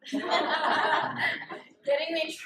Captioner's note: laughter